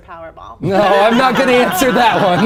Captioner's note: ALL laughing